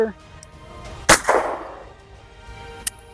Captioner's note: gunshot